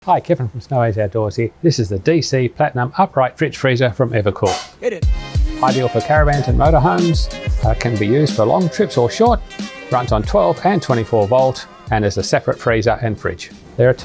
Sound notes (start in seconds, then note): 4.9 voiceover; 5.4 upbeat music